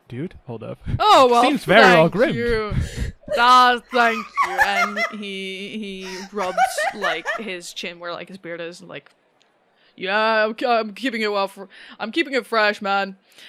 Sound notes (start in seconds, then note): 3.9 absolutely losing it